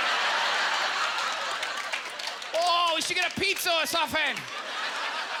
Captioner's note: audience laughter; in Chinese accent